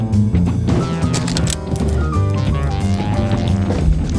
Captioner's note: keyboard sounds